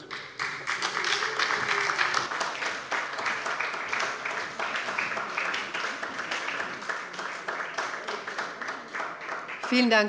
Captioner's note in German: Beifall bei der SPD